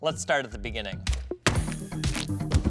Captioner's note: hands thudding; fingers snap; hand slaps; fist thuds